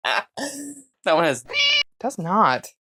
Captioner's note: meow